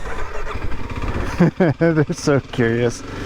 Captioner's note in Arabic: يضحك